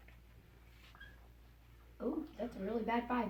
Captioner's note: marker squeaks